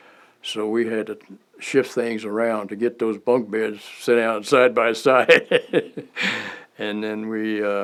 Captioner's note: laughter